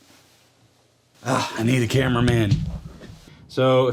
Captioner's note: sigh